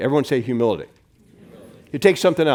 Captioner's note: crowd